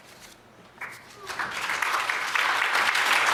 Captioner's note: applause